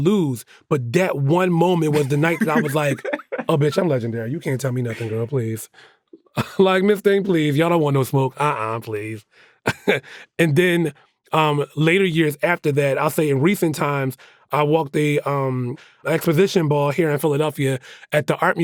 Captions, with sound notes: But that one moment was the night that I was like, "Oh bitch, I'm legendary. You can't tell me nothing, girl, please." Like, "Miss Thing, please, y'all don't want no smoke, uh-uh, please." (CHUCKLES) And then later, years after that, I'll say in recent times, I walked the Exposition Ball here in Philadelphia at the art museum.